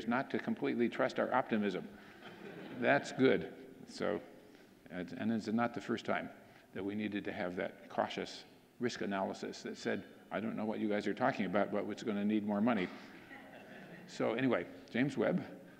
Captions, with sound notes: not to completely trust our optimism. (audience laughing) That's good. And this is not the first time that we needed to have that cautious risk analysis that said, "I don't know what you guys are talking about, but what's gonna need more money?" (audience laughing) So anyway, James Webb.